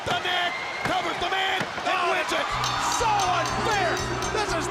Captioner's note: bell ringing